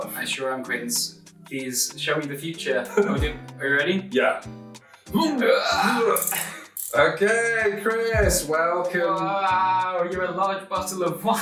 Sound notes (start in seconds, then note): 2.8 man laughs; 5.2 man groaning